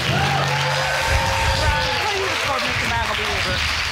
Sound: audience cheering and applauding

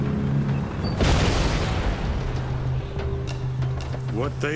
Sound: ominous instrumental music; tanks rumbling; landmine exploding

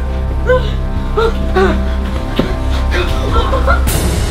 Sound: panicky breathing

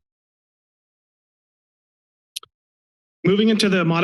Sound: silence

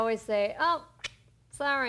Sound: clicks Tongue

